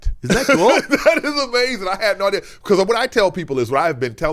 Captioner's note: laughing